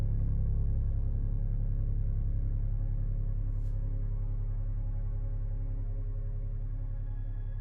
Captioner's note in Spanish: none